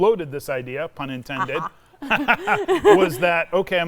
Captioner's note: both laughing